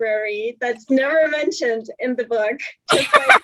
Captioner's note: laughs